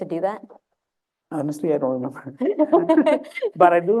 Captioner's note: laughter